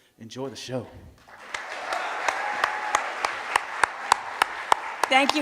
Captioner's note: applause